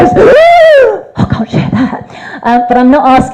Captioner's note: makes high-pitched scared noise